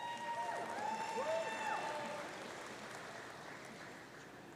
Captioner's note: audience cheering